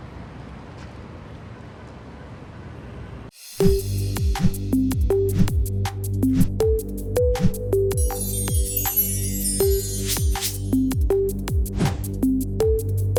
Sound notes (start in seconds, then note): 4.0 upbeat music; 8.0 sparkle sound